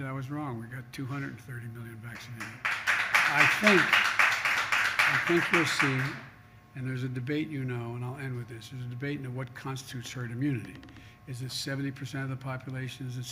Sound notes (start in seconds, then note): 2.2 applause